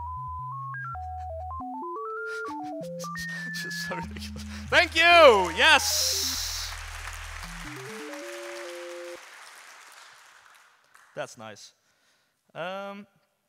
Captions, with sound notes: [laughs] Just so ridiculous. [audience applauds] Thank you, yes! [music stops] That's nice.